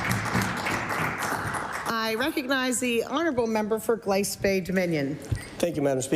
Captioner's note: applause